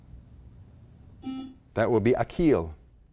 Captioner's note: buzzer blaring